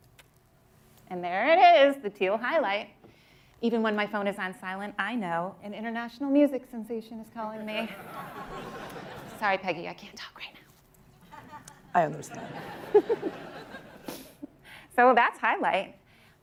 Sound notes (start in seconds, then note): 7.7 laughter; 12.9 laughter